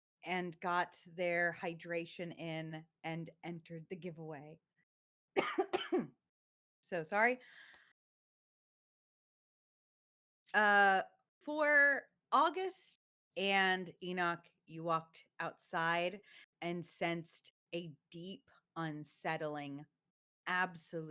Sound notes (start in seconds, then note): 5.4 coughs